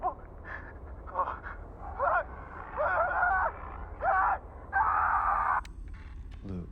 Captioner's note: screaming